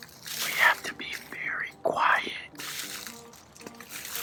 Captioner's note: whispering